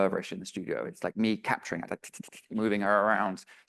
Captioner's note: imitates whooshing